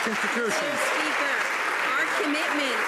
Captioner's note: some Applause